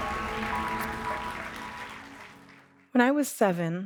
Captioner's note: audience applause